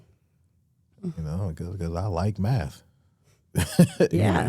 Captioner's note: laughs